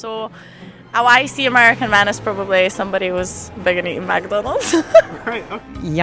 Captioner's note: more laughter